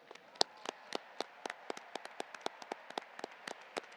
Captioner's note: audience applauding